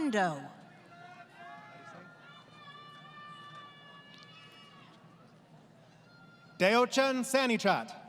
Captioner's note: crowd Cheering